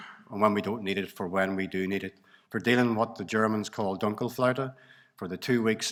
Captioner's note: speaks German 06.13